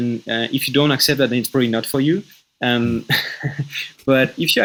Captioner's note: laughing